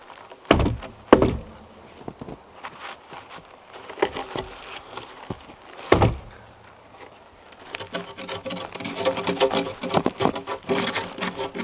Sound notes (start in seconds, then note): 0.3 log thumping; 7.5 drawknife scraping